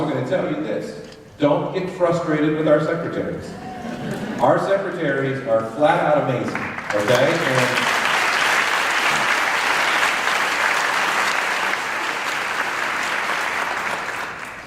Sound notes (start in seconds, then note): 6.4 applause